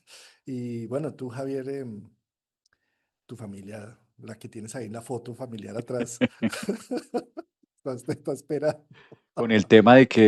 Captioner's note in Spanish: risas